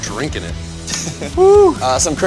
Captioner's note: laughs